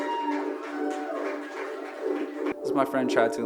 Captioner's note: audience applauding